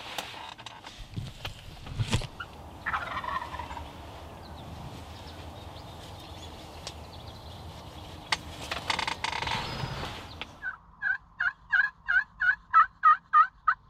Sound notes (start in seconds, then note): 2.8 turkey gobbles; 11.3 turkey call